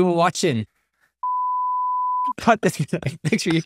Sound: beep resonating; chuckling

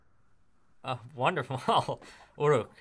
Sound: laughs

